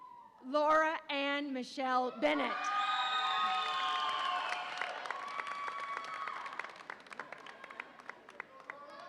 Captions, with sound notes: Laura Anne Michelle Bennett. (audience applauds and cheers)